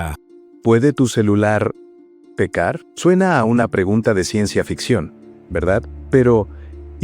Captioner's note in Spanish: Voz en off del narrador